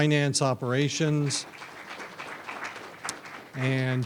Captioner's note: audience applauds